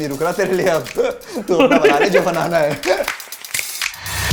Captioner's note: laughs